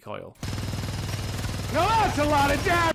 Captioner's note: loud minigun noises